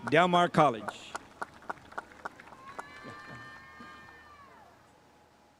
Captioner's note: spectators applauding